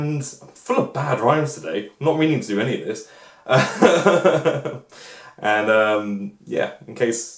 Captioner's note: laughs